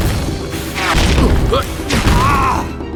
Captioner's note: N00bly grunts